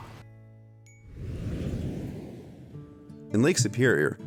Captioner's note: whooshing